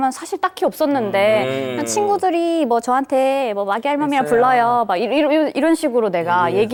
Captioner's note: imitates her younger self